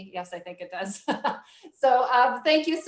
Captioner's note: chuckles